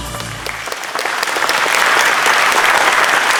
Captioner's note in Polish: aplauz